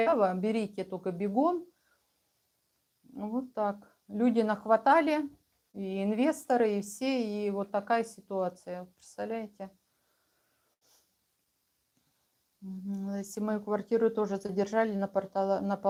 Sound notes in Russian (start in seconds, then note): none